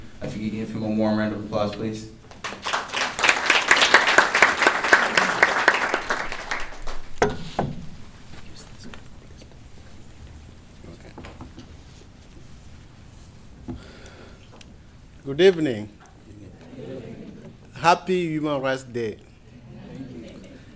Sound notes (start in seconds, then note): 5.0 applause